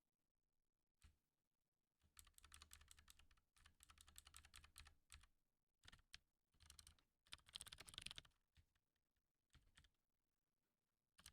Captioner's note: typing